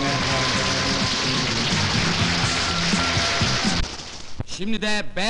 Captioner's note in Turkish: alkişlar